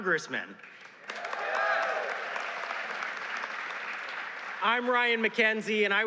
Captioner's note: applause